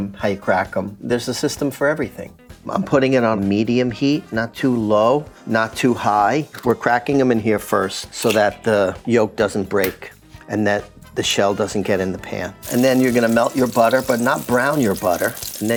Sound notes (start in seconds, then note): 12.6 butter sizzles